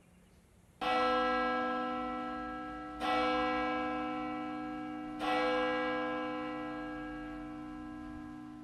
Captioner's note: bell chimes